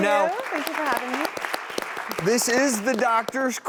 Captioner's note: applause